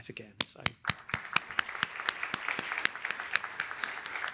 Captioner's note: applause